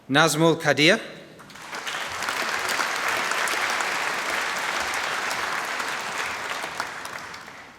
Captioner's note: applause